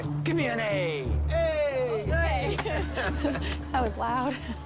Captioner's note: laughing